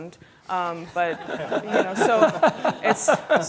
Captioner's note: audience laughing